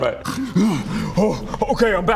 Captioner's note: hrgh!